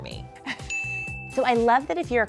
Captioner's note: chuckles; crown chimes